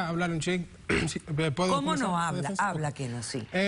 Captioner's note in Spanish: Carraspea